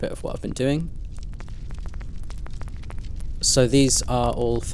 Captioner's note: fire crackling